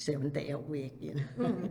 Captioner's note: laughs